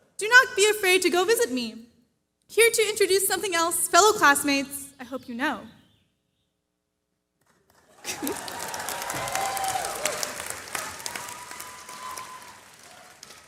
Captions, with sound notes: Do not be afraid to go visit me. Here to introduce something else, fellow classmates. I hope you know. [CHEERING]